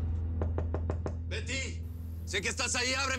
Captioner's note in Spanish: Toques en la puerta